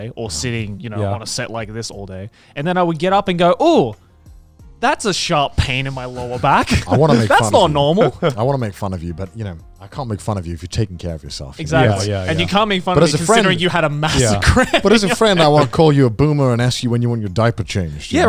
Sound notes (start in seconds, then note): 13.0 laughs